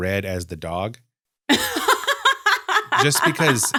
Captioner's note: laughs